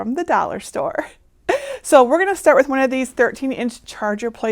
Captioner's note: chuckling